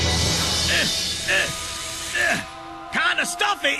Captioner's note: grunts